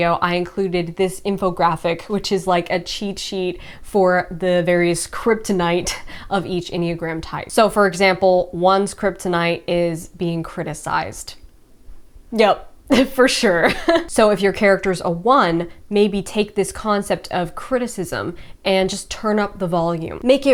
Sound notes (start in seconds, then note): 12.9 laughs